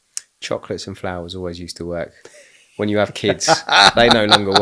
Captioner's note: laughing